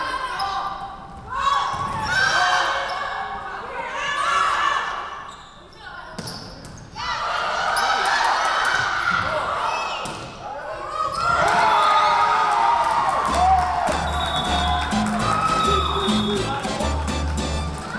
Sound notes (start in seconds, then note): 11.2 Tigers cheering; 11.2 crowd cheering; 13.2 upbeat Latin music